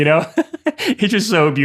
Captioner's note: chuckling